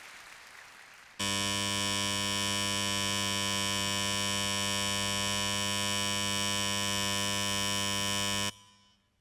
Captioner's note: opening buzzer